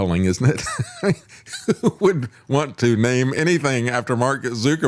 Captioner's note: laughs